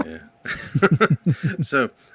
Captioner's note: both laughing